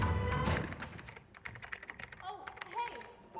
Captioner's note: music fades so sounds of computer keys